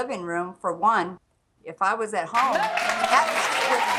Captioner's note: audience applauding